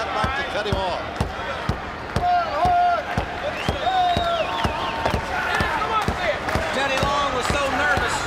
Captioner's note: crowd chatter